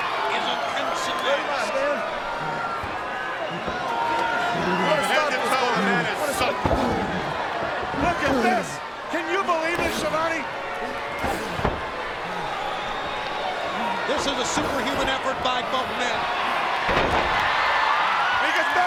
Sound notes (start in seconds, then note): 0.2 commentators vocalizing; 5.0 crowd chattering drowns out Brain speaking; 16.8 crowd cheering